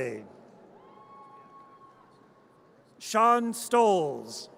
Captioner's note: audience cheers